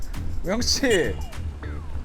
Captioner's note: honk